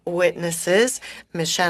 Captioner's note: speaking French